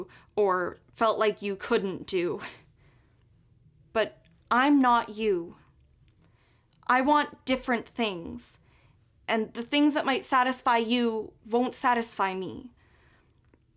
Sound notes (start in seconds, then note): none